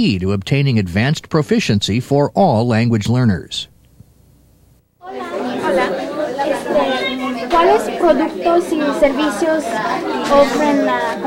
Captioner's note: students speaking Spanish